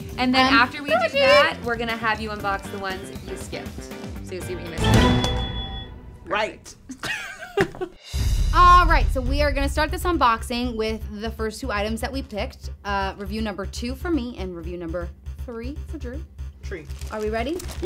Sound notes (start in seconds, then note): 5.5 intense music; 6.9 laughs